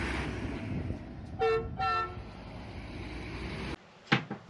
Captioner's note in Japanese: バスのクラクション音